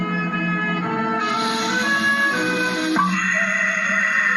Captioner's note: sizzling